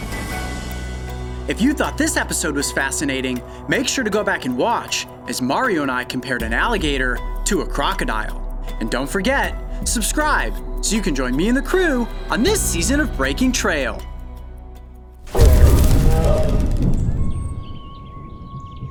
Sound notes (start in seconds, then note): 15.3 animal growling